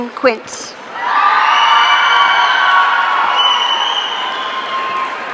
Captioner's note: audience cheering